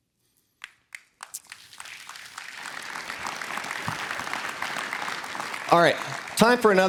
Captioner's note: applause